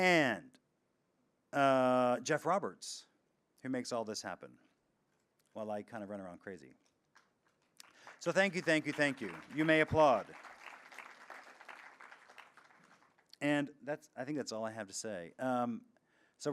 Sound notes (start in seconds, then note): 10.6 audience applauds